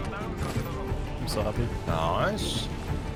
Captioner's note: under his Breath